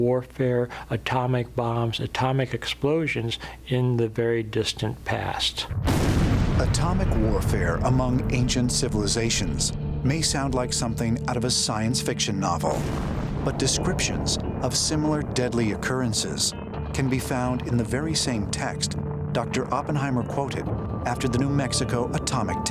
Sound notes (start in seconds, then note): 5.7 explosion